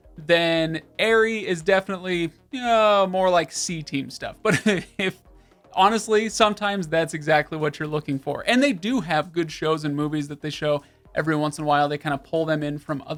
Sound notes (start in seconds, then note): 4.5 laughs